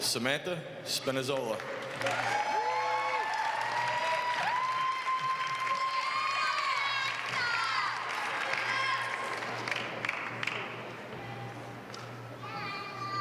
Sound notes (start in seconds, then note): 0.0 applause; 1.3 applause